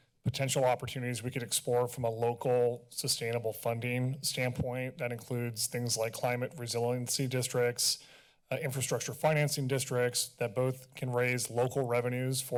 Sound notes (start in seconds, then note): none